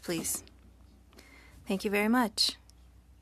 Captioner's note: speaking French